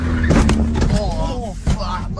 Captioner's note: slam